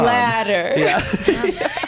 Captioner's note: laughs